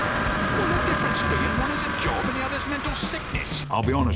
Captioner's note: BLU Spy Screaming